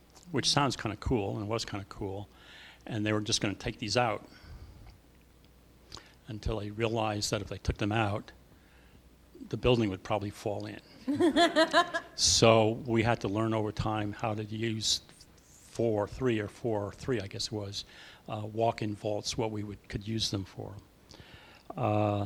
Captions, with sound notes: Which sounds kind of cool, and was kind of cool, and they were just going to take these out until he realized that if they took them out the building would probably fall in [Laughter]. So, we had to learn over time how to use four-- three or four, or three I guess it was-- walk-in vaults, what we would-- could use them for.